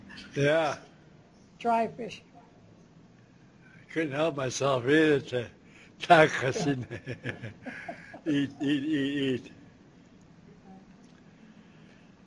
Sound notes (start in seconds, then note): 4.7 laughs; 4.7 non-english speech; 6.4 chuckles